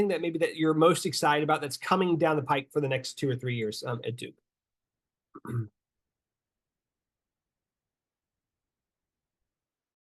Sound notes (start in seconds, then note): 5.3 clears throat